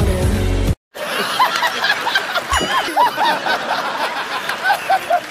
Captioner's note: laughing